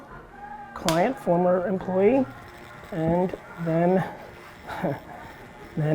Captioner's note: laughs